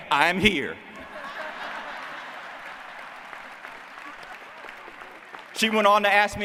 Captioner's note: laughter